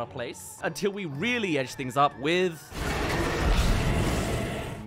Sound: Explosion* *Mutants

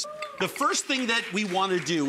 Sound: audience clapping

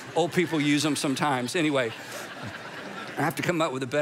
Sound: congregation laughing

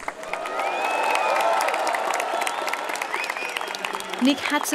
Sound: applause, cheering

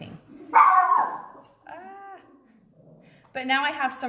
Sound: dog barks

